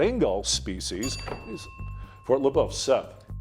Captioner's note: bell dinging